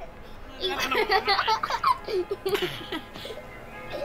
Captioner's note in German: lachen